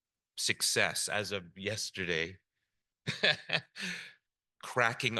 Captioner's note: chuckles